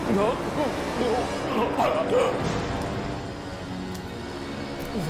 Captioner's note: gasping